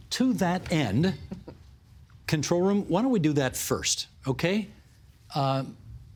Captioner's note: laughter